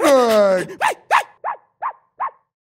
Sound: Mike barking frantically

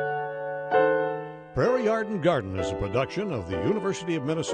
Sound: slow rhythmic music; voiceover

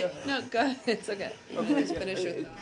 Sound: laughter

